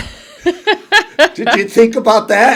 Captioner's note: laughing